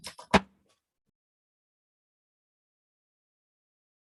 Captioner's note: gavel bangs